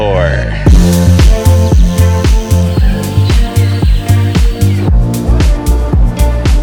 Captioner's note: birds chirping; upbeat music